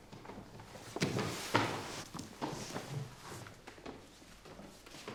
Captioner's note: shoes clanking; footsteps plodding